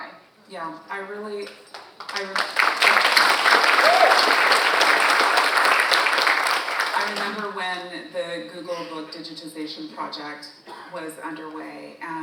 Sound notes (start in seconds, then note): 1.6 and audience applauding; 3.4 audience member cheers